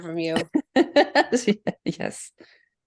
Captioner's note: laughs